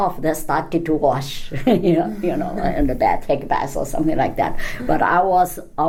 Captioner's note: laughs